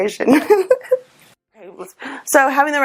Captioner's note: laughs